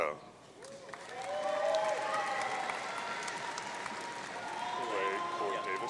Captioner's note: audience cheering